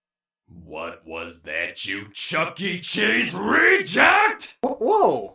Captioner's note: terrifyingly quick voice deepening